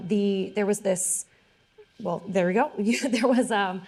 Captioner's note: laughing